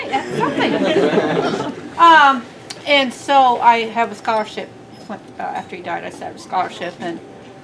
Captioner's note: laughter